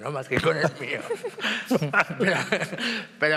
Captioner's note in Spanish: todos ríen